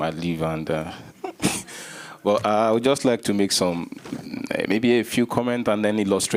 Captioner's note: chuckles